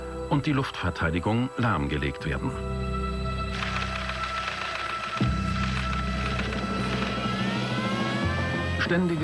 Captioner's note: applause